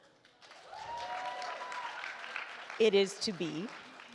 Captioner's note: attendees cheer and applaud